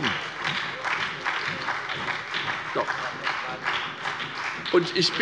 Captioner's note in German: Beifall bei der SPD